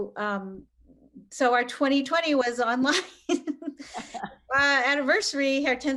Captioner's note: both laughing